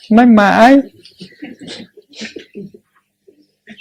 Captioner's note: audience laughing